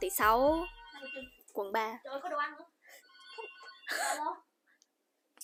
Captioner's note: phone ringing